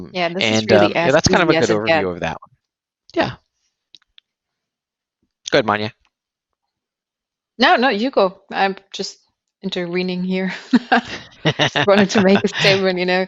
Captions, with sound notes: And that's kind of a good overview of that one. Yeah. Go ahead, Manya. >>No, no, you go, I'm just entwining here. [laughing] Just wanted to make a statement, you know.